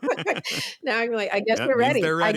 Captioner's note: laughter